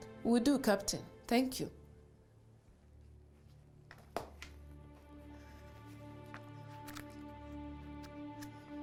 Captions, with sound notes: - Will do, Captain. Thank you. (phone set down on desk)